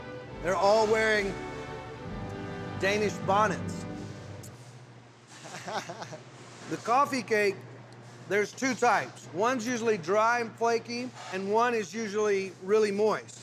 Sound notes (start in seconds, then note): 5.3 chuckling